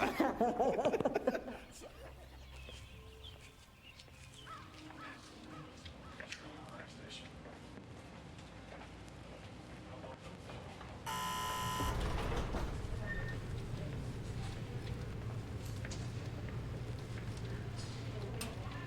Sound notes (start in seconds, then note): 0.0 both laughing; 3.0 birds chirping; 11.0 alarm buzzing